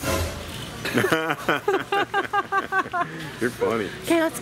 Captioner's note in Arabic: يضحك